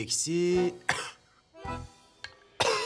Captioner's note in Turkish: Öksürüyor; Öksürüyor